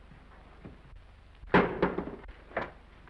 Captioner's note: cover thuds; footsteps approaching